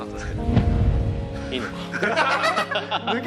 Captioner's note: laughter